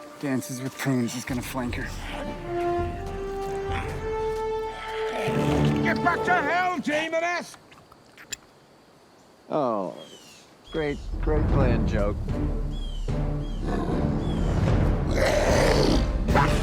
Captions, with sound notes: Dances with Prunes is gonna flank her. (intense music) - Get back to hell, demoness! (bowstring snaps) - Oh! Great, great plan, Joe. (sinister music) (Maiden 2 growls)